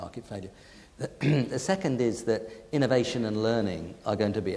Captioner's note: clears throat